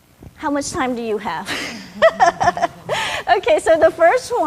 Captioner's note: laughs